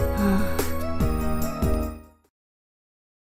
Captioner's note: breathes out